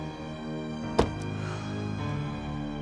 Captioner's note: sighs